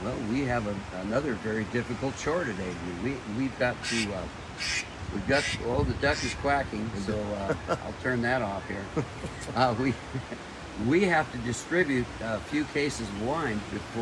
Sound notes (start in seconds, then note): 3.8 loud duck quacking; 8.8 softly chuckles